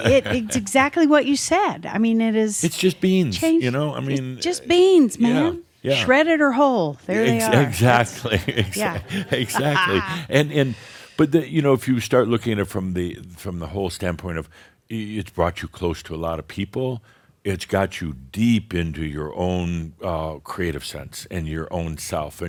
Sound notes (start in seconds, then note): 7.4 chuckles; 8.1 some chuckles